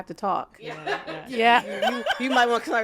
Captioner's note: laughs